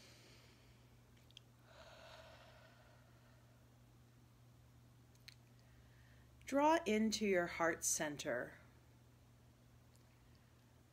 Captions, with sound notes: (inhaling) (exhaling) Draw into your heart center,